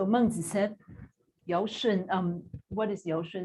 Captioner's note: non-english speech